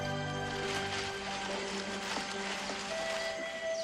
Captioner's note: leaves rustling